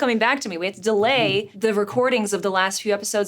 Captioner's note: Richard chuckles